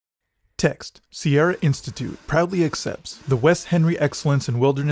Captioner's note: saw cutting sound